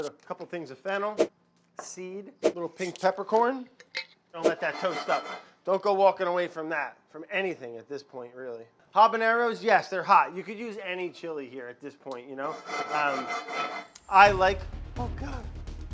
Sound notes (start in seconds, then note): 12.4 cast iron scrapes burner; 14.2 dramatic music